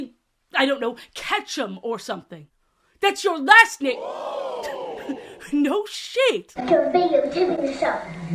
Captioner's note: audience ooh sfx